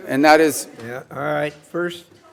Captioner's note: protest utterances